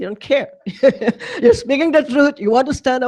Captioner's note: chuckles